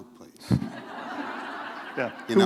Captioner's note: laughter